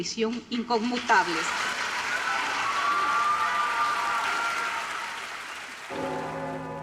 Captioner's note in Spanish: Aplausos